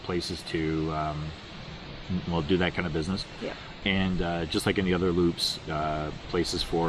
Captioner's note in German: ähm